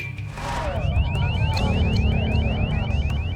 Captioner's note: beeping